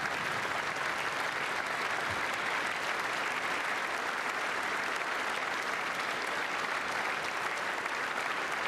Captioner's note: applause